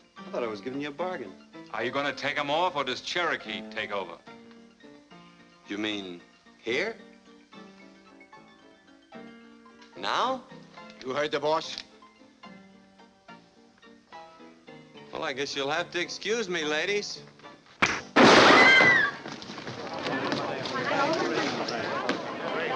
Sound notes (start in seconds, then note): 17.8 punching; 17.8 gunshot; 18.4 ladies scream